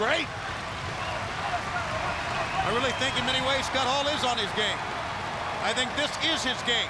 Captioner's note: crowd cheering